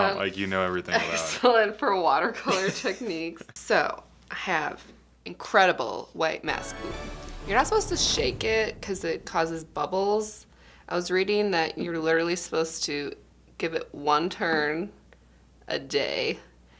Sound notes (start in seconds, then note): 1.9 laughing